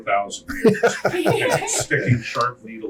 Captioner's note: laughing